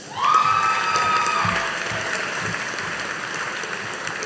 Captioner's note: audience applauding